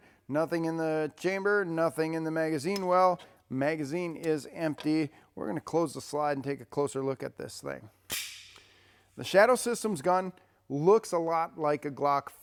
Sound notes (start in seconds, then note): 8.1 gun clicking